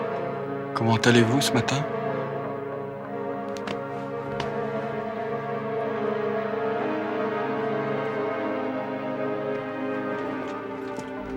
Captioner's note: creepy French man speaks French